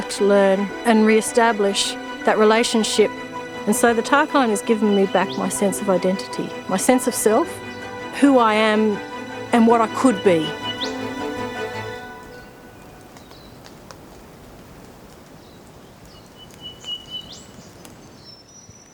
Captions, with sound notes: [bird calling] And then to find that this area, which was starting to really grab my heart, it was so under threat, and being destroyed for what?